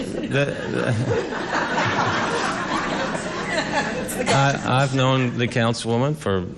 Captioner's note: laughter